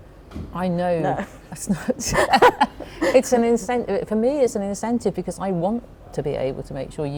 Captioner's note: both laugh